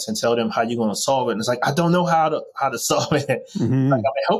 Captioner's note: chuckles